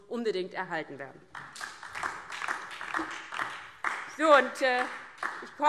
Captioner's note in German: Beifall DIE LINKE und vereinzelt SPD